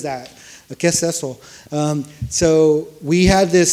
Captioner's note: speaks foreign language